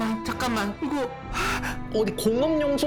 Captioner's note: gulp